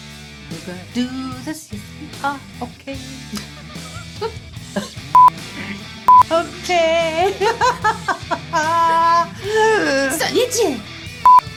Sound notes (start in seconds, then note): 7.2 sing song laughter